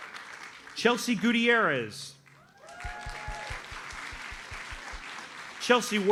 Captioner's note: audience cheers and applauds